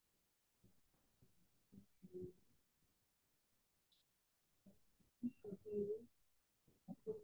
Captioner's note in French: silence